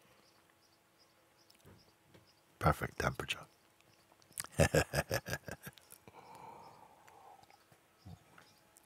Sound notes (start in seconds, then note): 4.4 lacht